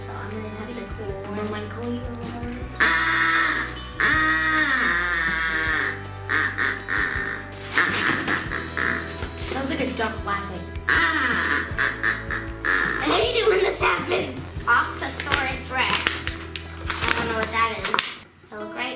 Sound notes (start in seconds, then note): 2.8 loud buzzing from whistle; 10.9 loud buzzing from whistle